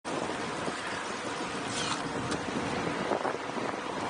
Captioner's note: wind whirring